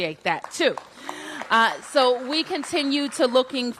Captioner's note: applause